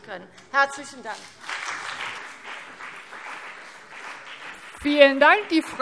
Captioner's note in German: Beifall BÜNDNIS 90/DIE GRÜNEN und vereinzelt CDU